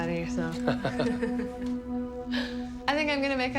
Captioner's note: laughing